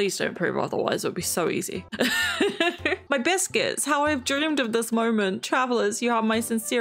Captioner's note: laughs